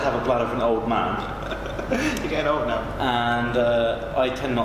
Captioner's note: laughing